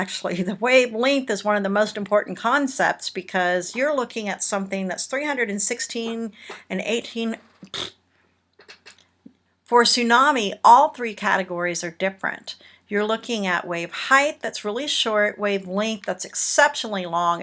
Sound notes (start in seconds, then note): 7.6 blows raspberry